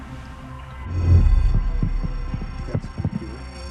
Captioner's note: device trilling